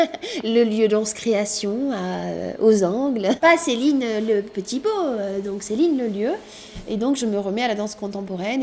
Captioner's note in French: rires